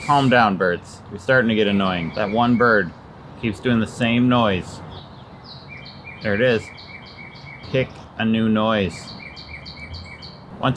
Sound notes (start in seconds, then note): 4.8 bird calling